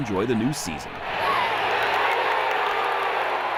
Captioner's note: cheering